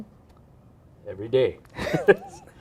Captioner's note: laughs